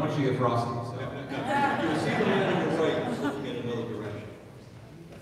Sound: audience laughing

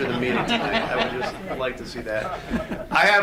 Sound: audience laughs

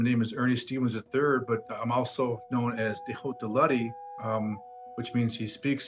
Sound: speaks foreign language

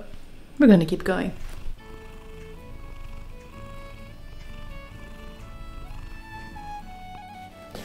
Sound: Encouraging Enya purrs

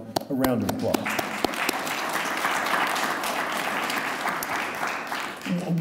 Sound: audience applauding

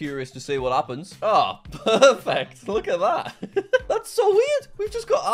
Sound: laughing

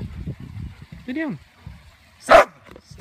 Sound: bark!

